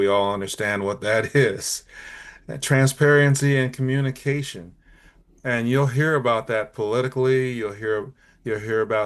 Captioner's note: light laugh